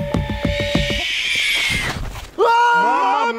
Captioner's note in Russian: шипение